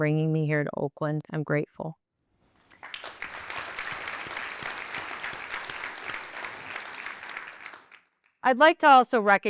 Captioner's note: applause